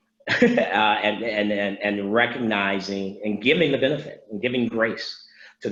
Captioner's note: laughs